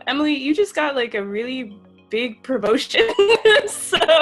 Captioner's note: laughs